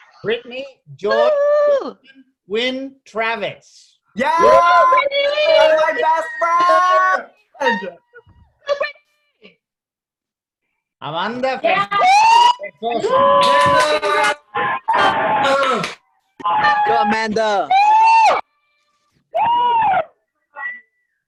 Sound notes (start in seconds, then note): 4.2 cheering; 14.1 cheering